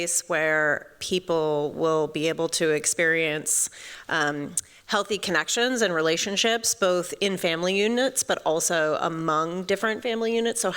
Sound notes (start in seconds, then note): none